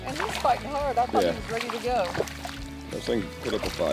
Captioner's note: murmurs